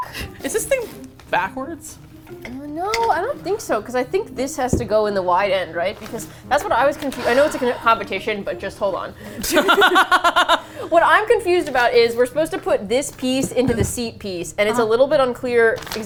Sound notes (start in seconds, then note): 9.4 both laugh